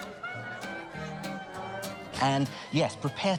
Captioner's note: muffled chatter